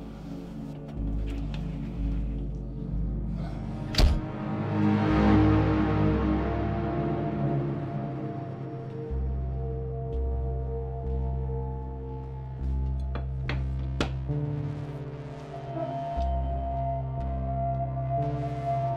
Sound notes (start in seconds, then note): 3.9 door closing